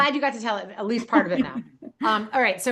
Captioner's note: laughing